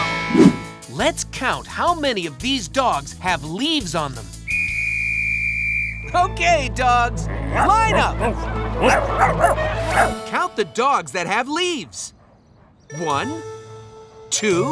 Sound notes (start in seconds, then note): 8.8 barking